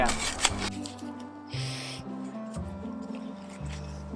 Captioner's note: sniffs scat